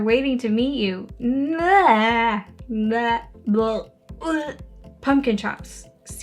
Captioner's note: vomiting sounds